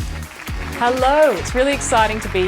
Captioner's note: applause